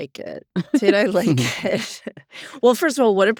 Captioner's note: laughs